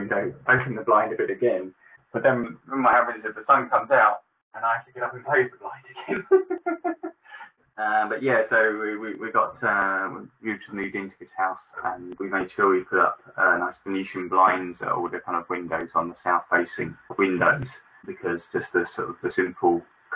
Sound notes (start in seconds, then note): 7.2 laughs